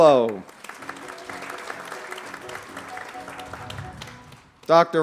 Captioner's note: applause